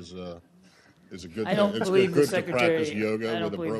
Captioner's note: laughter